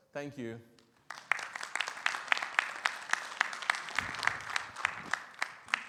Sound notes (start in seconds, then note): 0.9 audience applauding